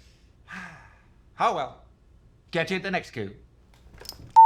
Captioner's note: sighs